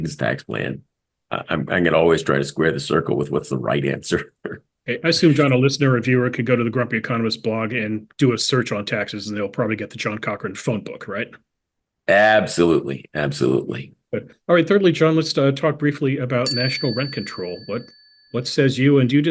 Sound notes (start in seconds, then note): 4.3 laugh